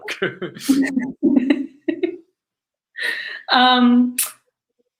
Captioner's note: both laugh